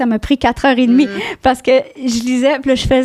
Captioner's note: in french